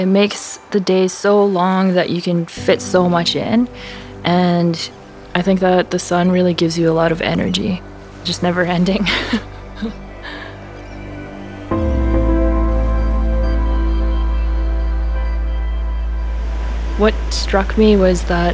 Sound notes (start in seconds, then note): 9.0 chuckling